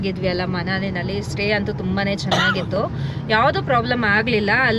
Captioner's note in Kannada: ಗಂಟಲು ಸರಿಮಾಡಿಕೊಳ್ಳುವಿಕೆ